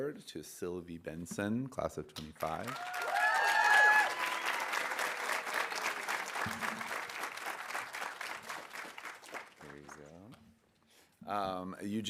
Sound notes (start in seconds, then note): 2.4 audience applauding; 2.6 audience cheering